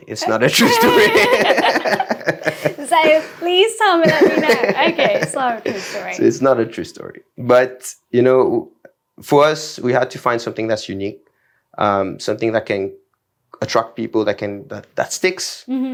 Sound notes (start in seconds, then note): 3.9 laughs